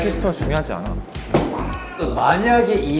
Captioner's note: bang